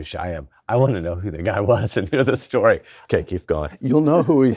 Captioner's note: chuckles